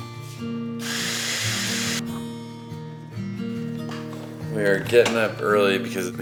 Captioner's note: coffee beans grinding